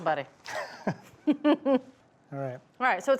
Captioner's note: both chuckling